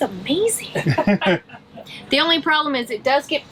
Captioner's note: chuckles